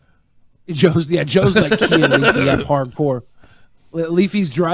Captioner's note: laughing